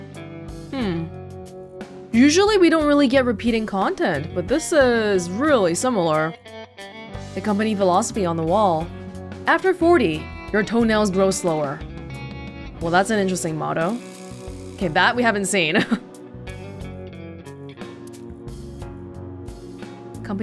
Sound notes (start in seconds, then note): 15.7 chuckles